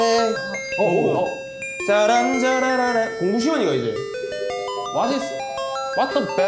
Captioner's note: the bell starts ringing